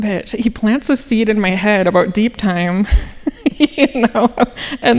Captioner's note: laughing